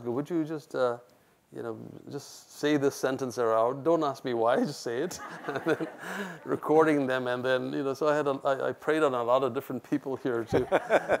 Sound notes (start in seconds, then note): 5.2 laughs; 10.5 laughs